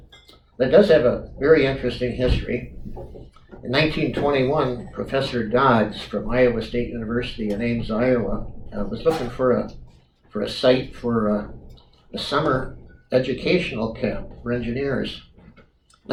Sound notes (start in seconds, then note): none